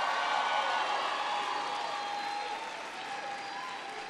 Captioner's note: applause